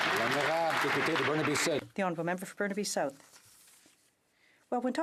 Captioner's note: some Applause